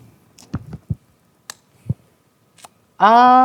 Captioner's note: bottle lid clicking